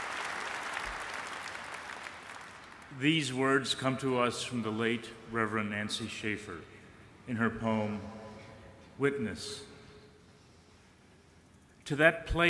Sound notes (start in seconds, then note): 2.4 applause